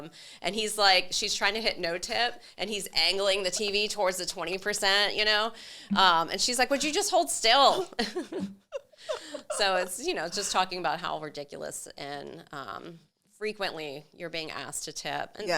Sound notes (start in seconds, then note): 7.7 laughs; 7.8 chuckles